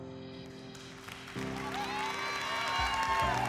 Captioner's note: applause and cheering